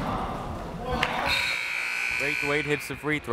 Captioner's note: buzzer